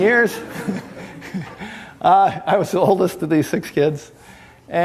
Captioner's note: snickering